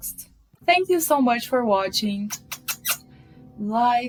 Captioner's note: mwah mwah